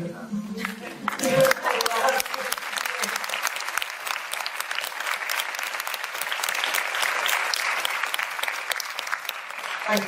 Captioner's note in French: applaudissements